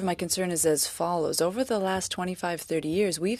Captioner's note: speaking French